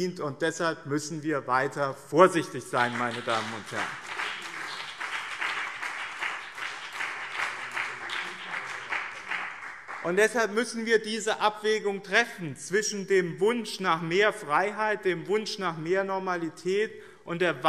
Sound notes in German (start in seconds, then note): 2.7 Beifall BÜNDNIS 90/DIE GRÜNEN und CDU